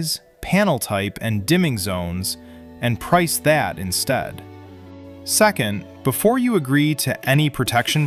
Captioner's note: thoughtful